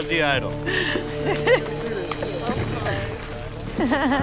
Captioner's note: all chattering